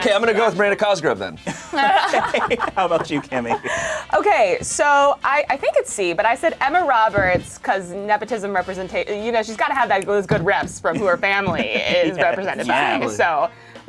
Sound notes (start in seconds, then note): 4.1 laughs